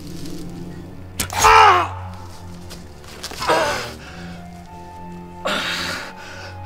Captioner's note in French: bruits de souffrance